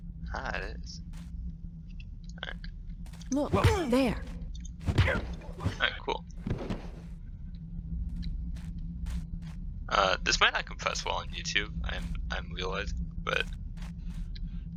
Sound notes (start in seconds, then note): 6.4 Blackjack thuds